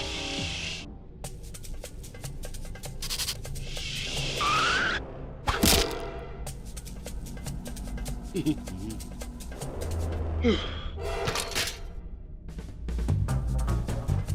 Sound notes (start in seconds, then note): 4.3 screeching; 10.4 exhaling; 12.5 adventurous music